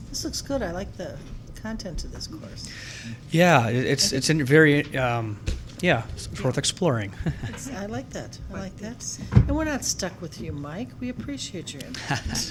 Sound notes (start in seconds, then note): 7.1 laughing